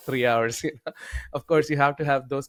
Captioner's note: laughs